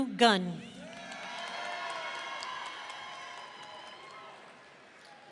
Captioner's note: audience cheering